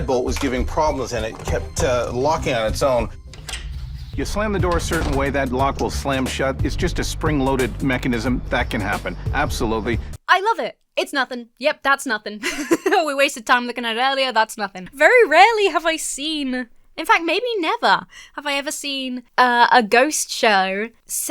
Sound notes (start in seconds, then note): 3.3 lock clicks; 12.4 laughs